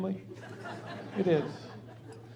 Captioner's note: laughing